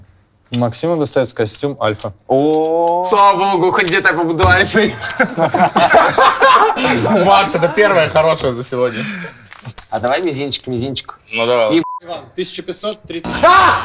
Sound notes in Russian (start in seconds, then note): 4.9 смех